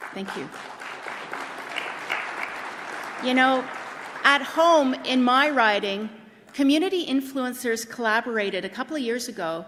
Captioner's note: applause